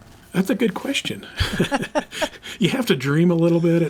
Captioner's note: both laugh